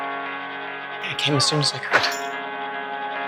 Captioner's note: voiceover